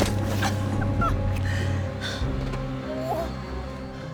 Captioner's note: bone cracks; whimpers; Rachel groans